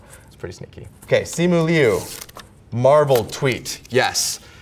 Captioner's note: paper rips